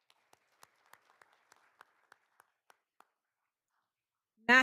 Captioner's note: all applauding